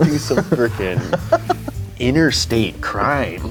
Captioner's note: laughs